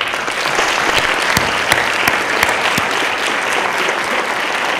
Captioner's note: applause